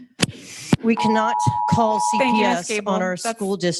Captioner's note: timer beeping